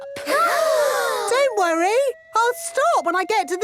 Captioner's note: children gasp